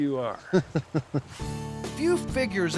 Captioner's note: laughing